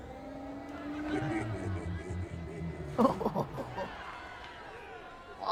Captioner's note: chuckles